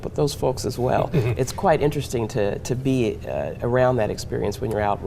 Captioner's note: chuckling